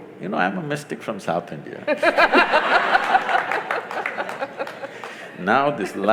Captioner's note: laughter/Applause